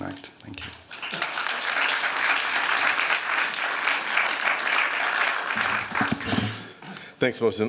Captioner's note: applause